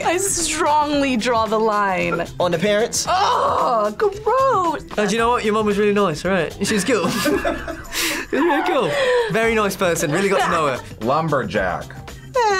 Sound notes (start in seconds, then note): 6.6 group laughs